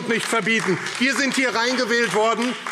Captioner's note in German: Beifall AfD